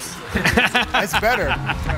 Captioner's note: laughing